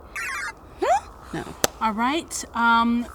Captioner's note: electronic computer sounds playing